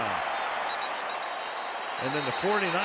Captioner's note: whistle blows